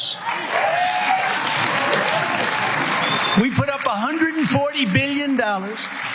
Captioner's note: applause